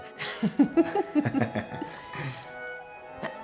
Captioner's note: laughter